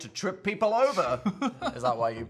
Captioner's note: Phil laughs